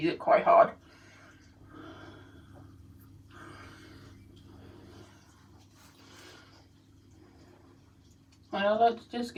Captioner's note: breathing sounds